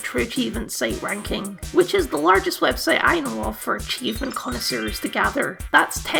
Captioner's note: sparkle Noises